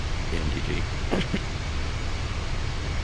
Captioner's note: laughs